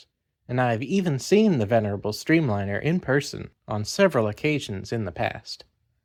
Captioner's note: none